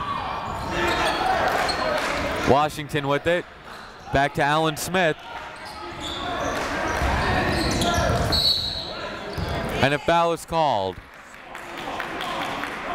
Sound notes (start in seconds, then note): 0.2 chatter; 8.2 whistle